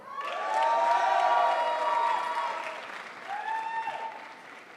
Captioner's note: crowd applauds